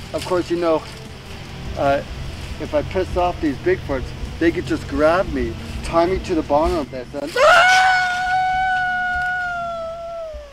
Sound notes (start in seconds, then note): 7.3 yells